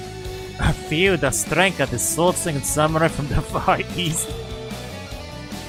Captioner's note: laughs